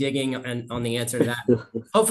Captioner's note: chuckling